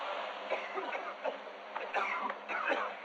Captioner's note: coughing